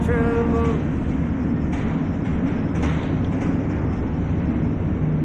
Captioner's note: music stops, train rumbles